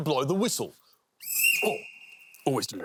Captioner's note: blows whistle